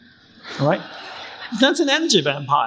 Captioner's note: crowd laughing